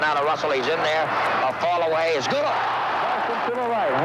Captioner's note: audience cheering